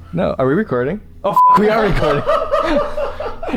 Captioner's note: laughter